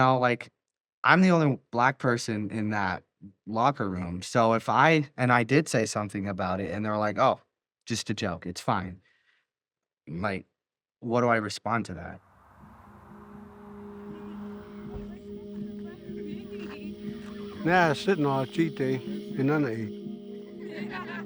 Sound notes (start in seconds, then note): 12.2 traffic rumbling; 14.8 people chattering; 17.9 speaking in Native American